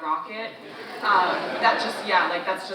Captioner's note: audience laughing